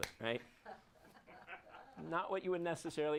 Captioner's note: audience laughs